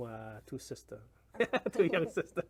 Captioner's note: laughs